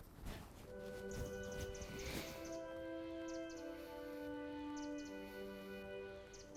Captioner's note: gentle music; birds chirping